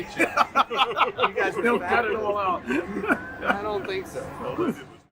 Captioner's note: laughing